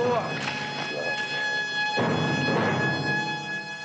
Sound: dramatic music; gurgling

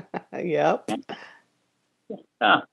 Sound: laughing

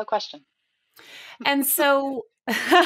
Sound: laughs

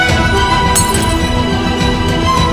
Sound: bottle shattering

